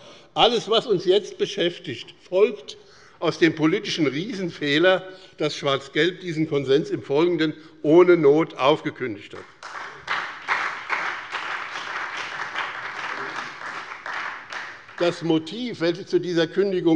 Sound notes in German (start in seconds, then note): 9.3 Beifall bei dem BÜNDNIS 90/DIE GRÜNEN und bei Abgeordneten der SPD